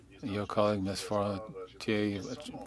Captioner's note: speaking French